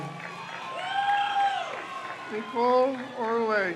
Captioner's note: crowd cheers